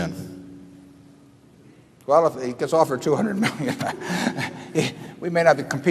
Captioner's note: laughs